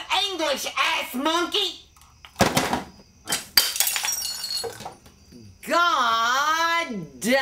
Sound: bottle crash

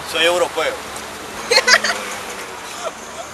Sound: laugh

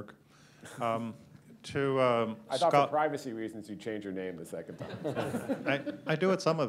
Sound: laughter

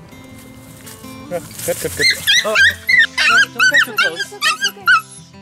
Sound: squealing

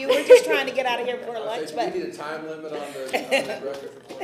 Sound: laughter

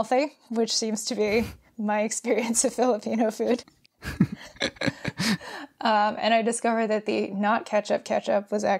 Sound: both laugh

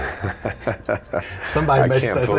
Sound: Kliff laughing

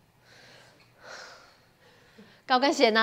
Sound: sigh

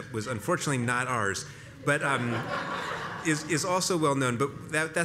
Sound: laugh

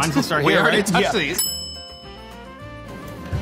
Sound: bell dings

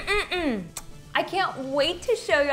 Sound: kissing

